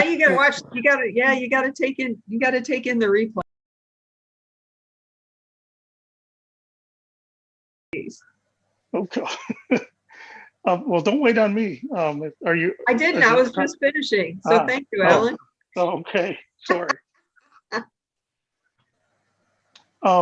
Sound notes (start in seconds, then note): 12.8 laughs; 16.7 laughs